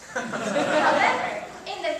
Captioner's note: audience laughs